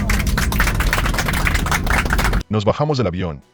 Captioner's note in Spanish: Aplausos